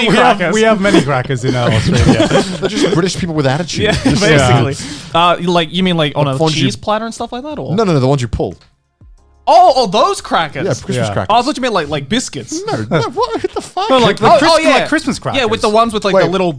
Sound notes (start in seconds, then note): 2.9 laughing; 3.7 all laughing